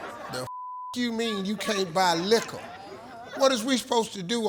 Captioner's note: beep